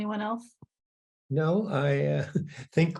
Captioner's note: laughs